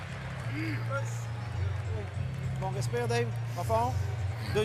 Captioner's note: speaking French